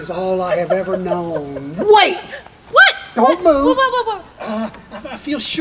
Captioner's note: laughing